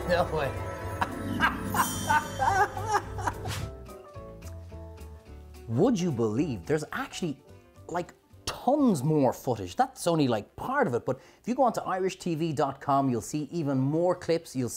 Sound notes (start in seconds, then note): 1.0 laughs